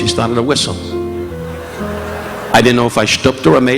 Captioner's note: audience laughing